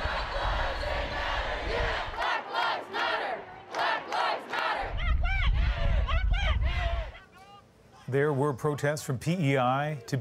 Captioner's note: chanting